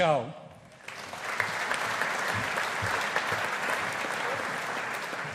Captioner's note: audience applauding